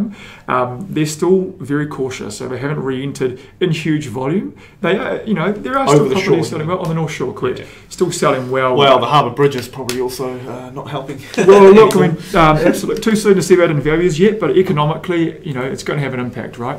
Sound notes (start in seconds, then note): 11.1 laughing